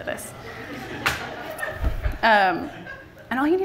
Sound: laughter from the audience

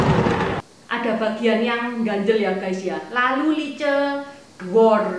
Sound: thunder sound

